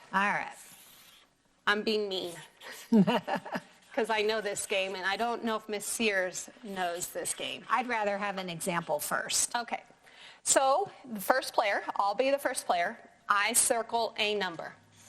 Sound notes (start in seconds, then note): 2.6 laughs